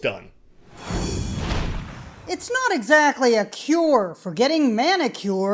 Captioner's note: voice-over